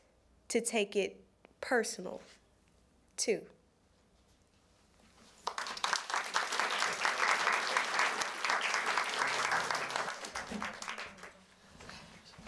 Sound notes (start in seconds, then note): 5.3 applause